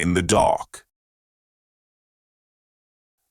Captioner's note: silence